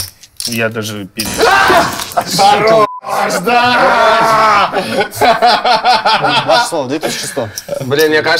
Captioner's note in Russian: смех